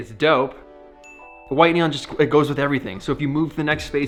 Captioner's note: dinging